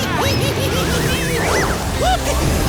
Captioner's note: laughs loudly